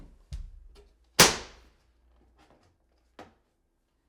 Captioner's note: board snaps